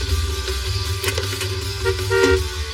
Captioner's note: beeps horn